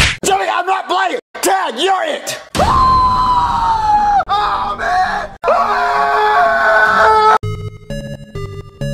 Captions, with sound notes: Jeffy I'm not playing!! Tag your it!!! *screams* I'm it!!!!! *screams*